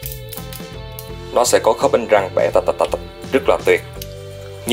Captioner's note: crack crack